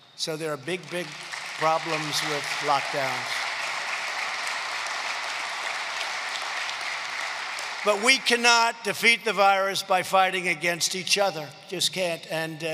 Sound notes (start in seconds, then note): 3.1 applause